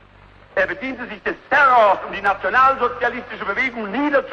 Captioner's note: none